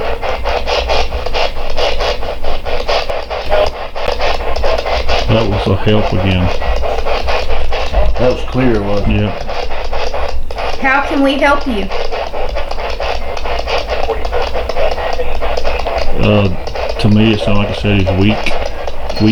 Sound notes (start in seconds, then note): 3.4 radio voice; 13.9 radio voice